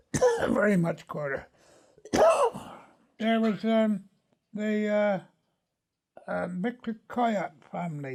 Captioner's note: then a second cough